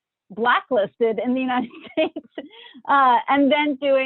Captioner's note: chuckles